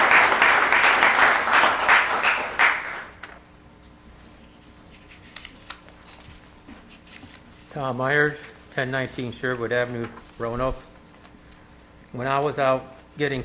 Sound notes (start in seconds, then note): 1.5 applause